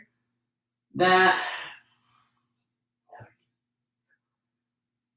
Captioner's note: exhales deeply